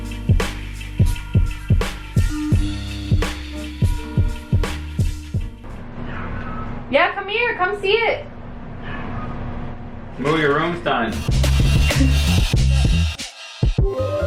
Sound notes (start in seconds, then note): 5.7 cat meowing loudly; 8.7 cat meowing loudly; 11.1 upbeat music